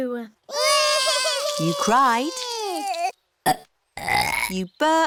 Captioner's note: both bawling; both burping